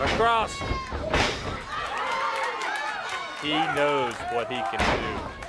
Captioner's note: crowd cheering